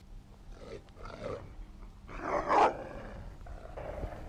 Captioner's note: wolf growling